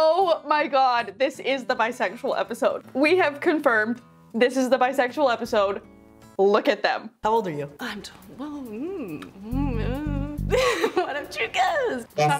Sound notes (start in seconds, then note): 8.7 hums; 9.6 laughs